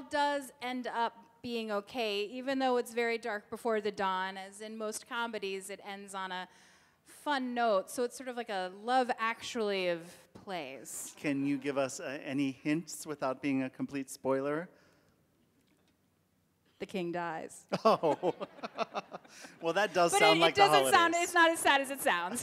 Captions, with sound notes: - And it all does end up being okay. Even though it's very dark before the Dawn, as in most comedies, it ends on a fun note. So it's sort of like a love actually of play. - Can you give us any hints, without being a complete spoiler? - The king dies. [giggles] Well, that does sound like a holiday. - But it doesn't sound as sad as it does.